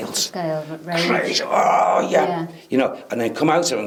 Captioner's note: grunting